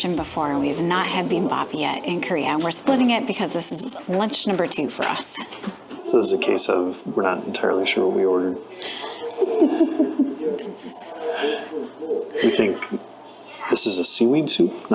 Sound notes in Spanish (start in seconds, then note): 8.9 Risas